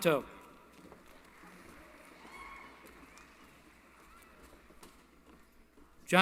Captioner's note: applause